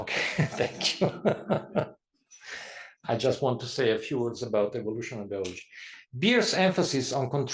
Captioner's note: laugh